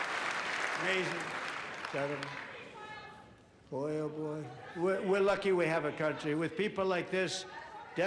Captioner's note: applause